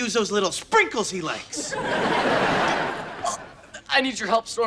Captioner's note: audience laughter